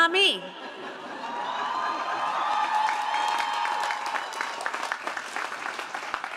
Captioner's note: audience cheering and applauding